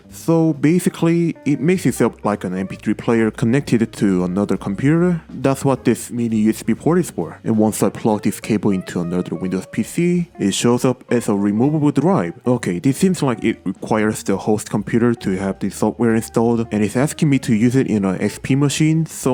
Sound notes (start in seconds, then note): none